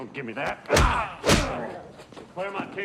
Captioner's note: grunting